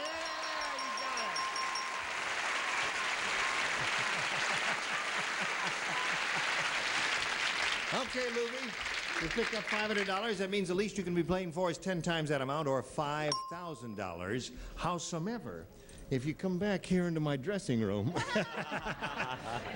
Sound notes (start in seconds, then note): 0.0 bell ringing; 1.8 audience cheers; 13.3 bell rings